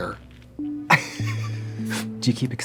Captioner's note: Katya laughs